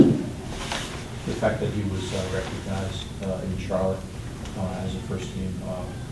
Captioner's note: voiceover